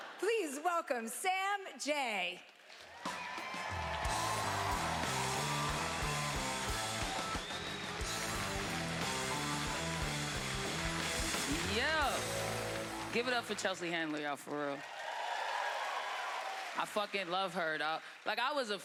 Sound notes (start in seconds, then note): 2.8 cheering; 4.5 rhythmic music; 14.7 cheering